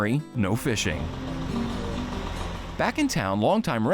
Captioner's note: gentle music; truck rumbling